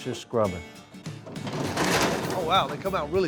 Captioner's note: apples tumbling